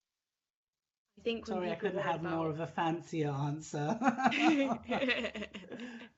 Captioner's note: laughing